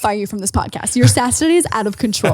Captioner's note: laughing